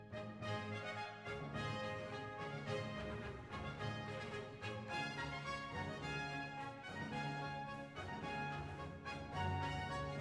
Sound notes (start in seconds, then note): none